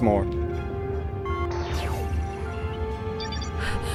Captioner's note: laser noise